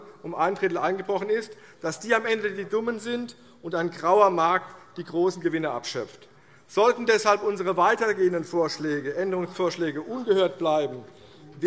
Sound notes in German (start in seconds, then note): none